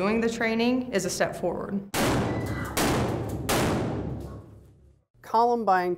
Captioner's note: gun shots fired